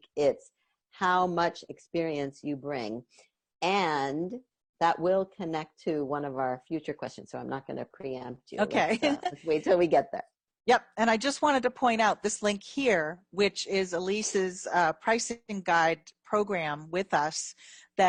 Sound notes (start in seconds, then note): 8.8 laughs